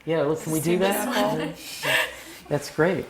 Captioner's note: laugh